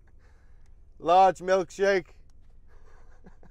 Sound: laugh

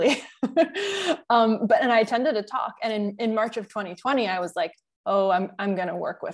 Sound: chuckle

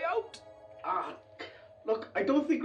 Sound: Harvey groans

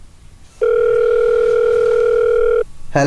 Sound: phone ringing

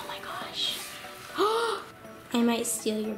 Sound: gasping

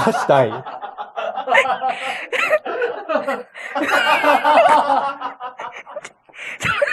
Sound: laughs

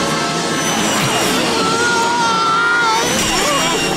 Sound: screaming

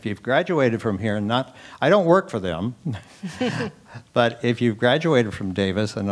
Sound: laugh

